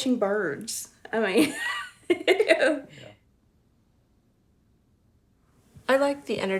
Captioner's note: laughing